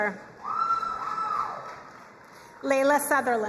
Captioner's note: crowd cheering and applauding